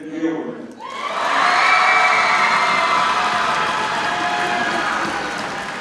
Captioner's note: audience cheers and applauds